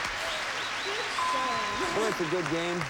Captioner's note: audience applauding